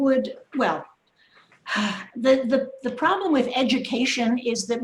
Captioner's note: sighs